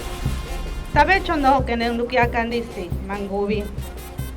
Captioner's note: habla en idioma extranjero